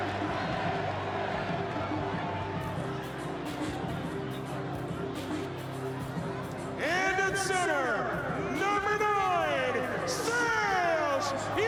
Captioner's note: cheering